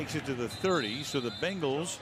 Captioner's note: whistle